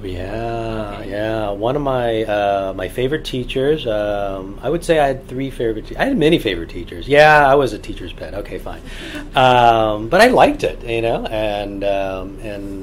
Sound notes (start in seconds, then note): 9.3 laughs